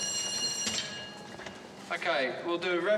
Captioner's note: bell rings